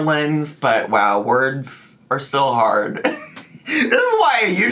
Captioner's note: laughs